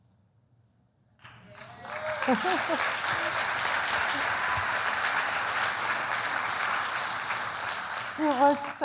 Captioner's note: applause